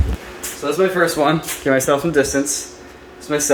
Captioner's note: none